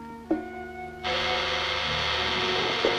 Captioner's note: buzzing persists